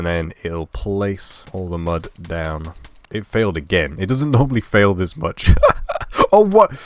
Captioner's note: laugh